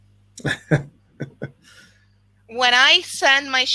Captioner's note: laughs